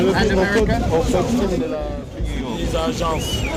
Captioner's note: non-english speech